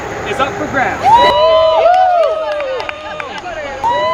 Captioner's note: everyone cheering